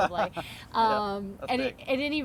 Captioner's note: laughs